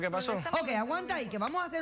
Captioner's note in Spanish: ella comenta entre dientes